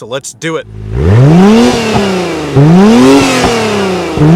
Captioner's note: car engine revving